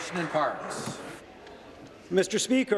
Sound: applause

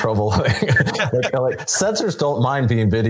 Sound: panelists laughing

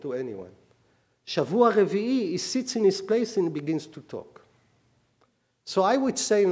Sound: speaking hebrew

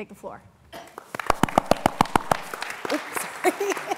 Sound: applause

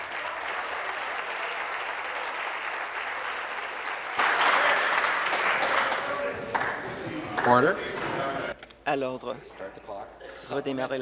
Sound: applause

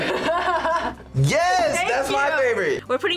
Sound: laughs

